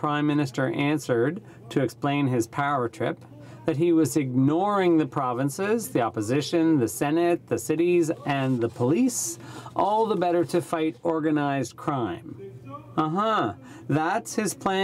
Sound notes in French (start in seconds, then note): 2.7 voix de l'interprte